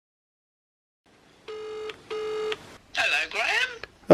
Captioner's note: phone ringing